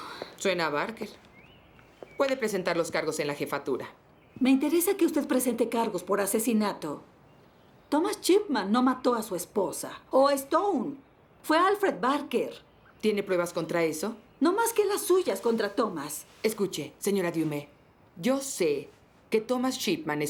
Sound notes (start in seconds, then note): none